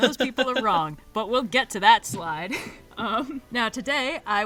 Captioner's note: laughs